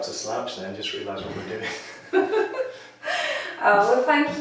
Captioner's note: laughing